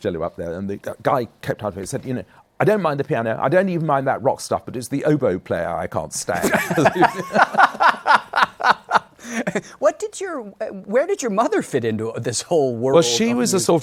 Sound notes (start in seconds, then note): 6.4 laughter